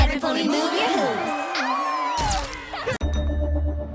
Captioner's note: crowd cheering